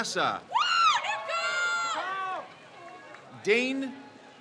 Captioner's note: crowd cheers